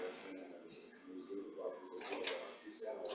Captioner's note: speaking faintly